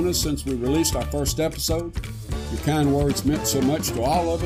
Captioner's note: none